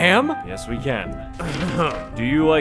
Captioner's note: clears throat